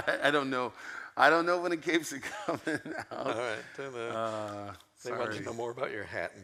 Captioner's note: laughs